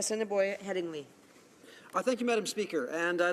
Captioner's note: speaking French